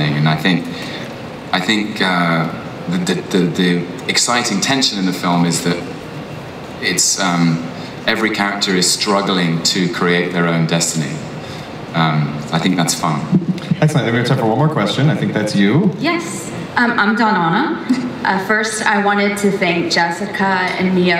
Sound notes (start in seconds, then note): 16.3 voiceover